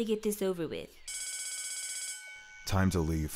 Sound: bell rings

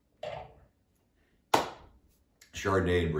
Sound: glass taps; hands clap

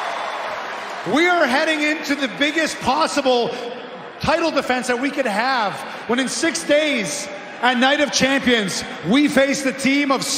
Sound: cheering

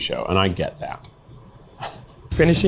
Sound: laughs

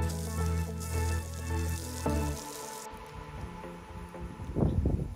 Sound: water splashing

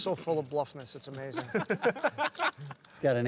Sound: laughter

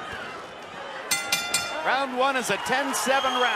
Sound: bell rings

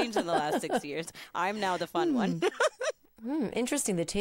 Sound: laughing

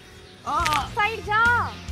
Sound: violent neck snap

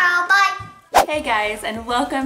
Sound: whooshing

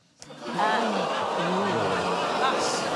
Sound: audience Ooohs

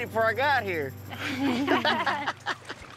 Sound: laughter

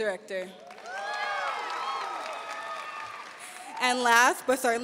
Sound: audience cheering and applauding

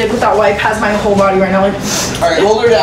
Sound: sniffs

